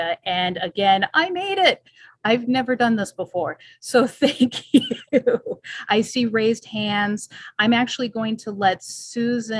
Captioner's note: chortling